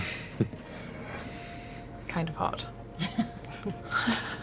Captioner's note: chuckles; laughs